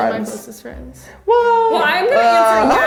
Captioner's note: laughing